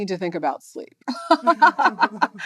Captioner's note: laughter